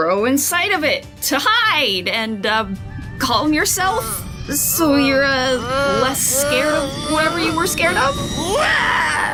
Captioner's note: Tea kettle noises play as Woody becomes furious; crunching noise